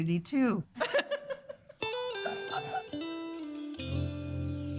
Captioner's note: laughing